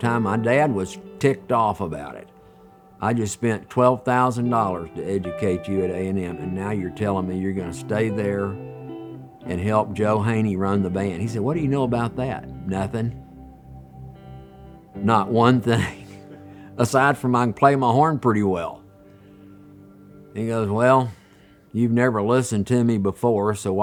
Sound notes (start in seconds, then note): 15.8 laughs